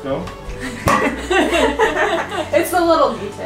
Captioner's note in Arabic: يضحك الجميع